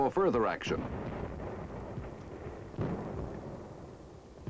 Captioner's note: booming